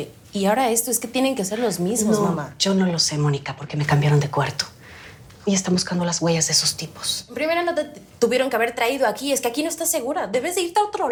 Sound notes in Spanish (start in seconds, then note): none